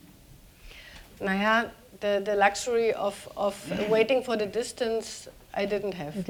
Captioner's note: speaking german